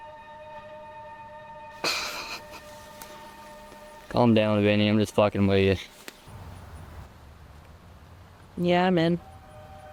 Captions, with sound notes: (Dimitri chuckles) - Calm down, Vinny. I'm just fucking with you. - Yeah, I'm in.